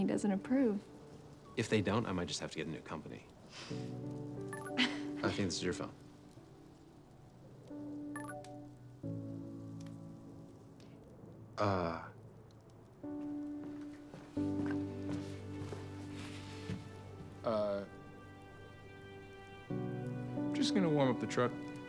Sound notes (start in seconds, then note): 2.4 phone chiming